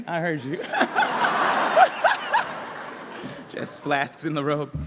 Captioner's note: laughter